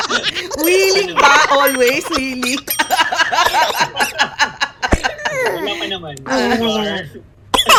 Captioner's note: laughter; laughter